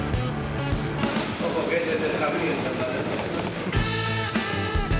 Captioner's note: train